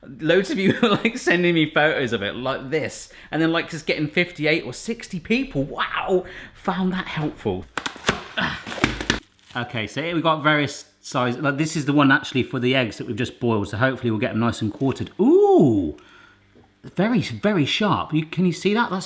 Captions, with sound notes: Loads of you are like sending me photos of it, like this and then just getting 58 or 60 people, wow, found that helpful. (opening package) OK so here we've got various size. Like this is the one actually for the eggs that we've just boiled so hopefully we'll get them nice and quartered. Ooh, very very sharp, can you see that?